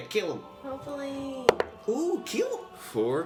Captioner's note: dice roll